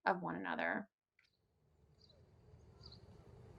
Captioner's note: Birds chirping in Central Park, New York